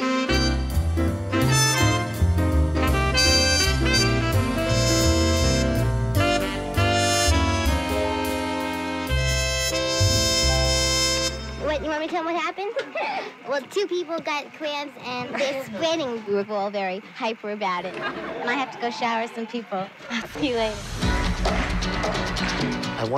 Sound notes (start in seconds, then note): 0.1 suspenseful music; 12.7 laughing; 17.8 laughing; 20.3 upbeat music